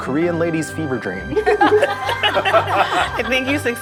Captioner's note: all laughing